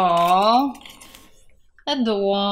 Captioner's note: rustle